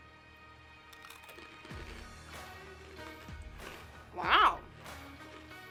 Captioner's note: mochi crunching